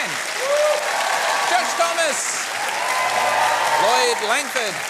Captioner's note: cheering and applause